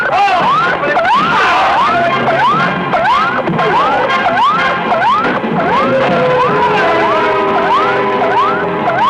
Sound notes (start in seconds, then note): 0.3 whacking; 1.2 crying out